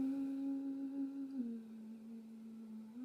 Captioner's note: soft eerie humming